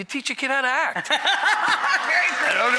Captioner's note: hearty laughter